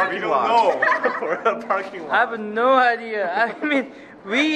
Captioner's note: laughing